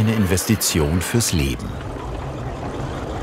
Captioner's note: driving noises